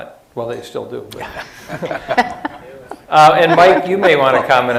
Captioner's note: laughter